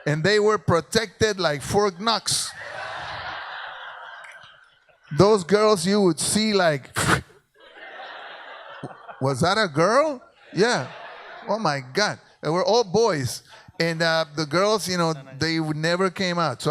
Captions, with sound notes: And they were protected like Fort Knox. (audience laughs) Those girls, you would see like (blows in to the microphone) Was that girl? Yeah. Oh my God. There were all boys. And the girls, they never came out.